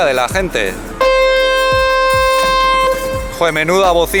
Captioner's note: edit: the ship's horn sounds loudly